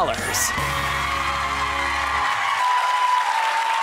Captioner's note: clapping